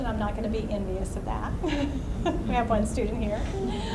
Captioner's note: laughs